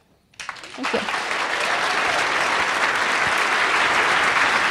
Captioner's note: applause